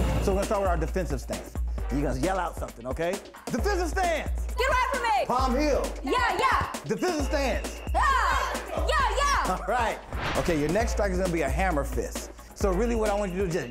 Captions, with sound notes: So we're gonna start with our defensive stance. Your gonna yell out something, okay? Defensive stance. Get away from me. Palm heel. (women yelling) Defensive stance. (women yelling) OK, your next strike is gonna be a hammer fist. So really what I want you to do is just